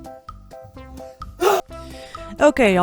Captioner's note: cut off scream